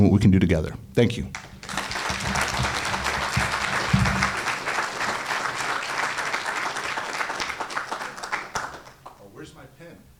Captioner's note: applause